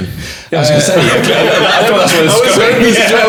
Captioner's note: laughing